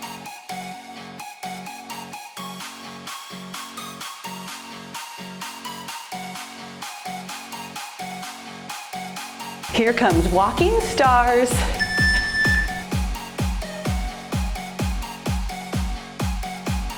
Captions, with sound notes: Here comes walking stars. (timer beeps) (cheerful music)